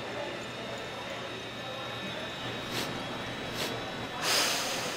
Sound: CLAY Sniffs the Air

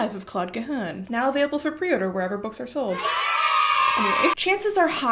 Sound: cheering sfx

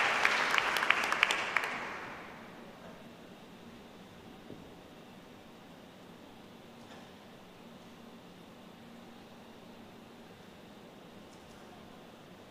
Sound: applause

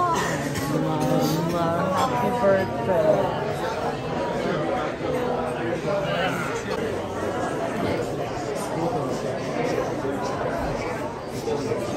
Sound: restaurant Noise

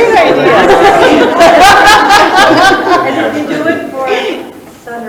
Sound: participants laugh

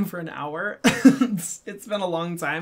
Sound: laughs

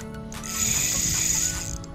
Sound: reel screaming

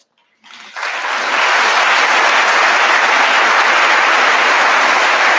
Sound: audience applauding

